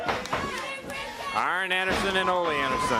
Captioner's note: crowd chatter